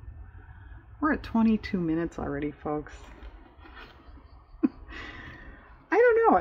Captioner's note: laughs